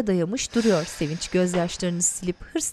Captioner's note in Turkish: Nefes sesi